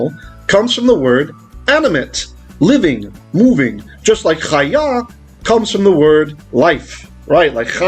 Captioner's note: Hebrew